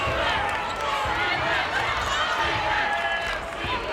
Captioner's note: crowd